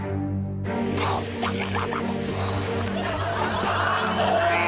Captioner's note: dramatic music playing; Ardal makes war noises